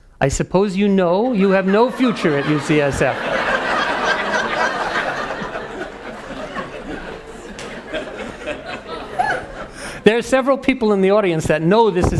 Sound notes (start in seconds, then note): 3.5 audience laughing